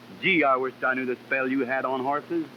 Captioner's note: none